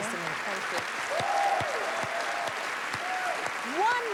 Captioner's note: cheers and applause